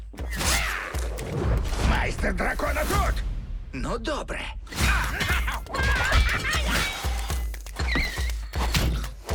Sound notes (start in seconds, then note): 4.7 grunting; 7.7 brakes screech